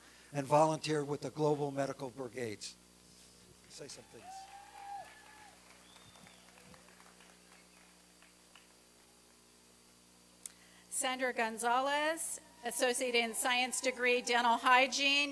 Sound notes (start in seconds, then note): 3.7 applause and cheering